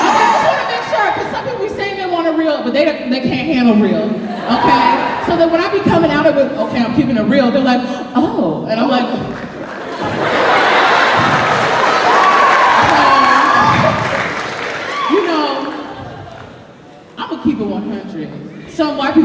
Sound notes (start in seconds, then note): 4.3 laughter